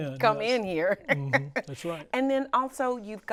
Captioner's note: laughs